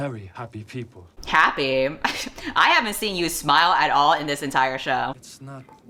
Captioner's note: laughs